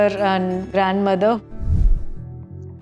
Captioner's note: whoosh